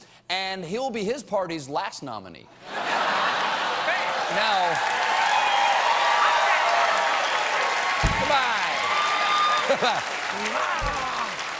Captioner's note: applause; laughter